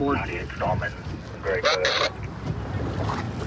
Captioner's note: radio communication